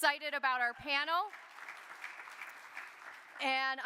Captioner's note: audience applauding